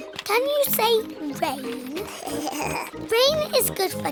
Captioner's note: giggles